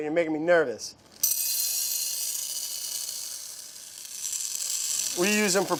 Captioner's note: ball bearings clattering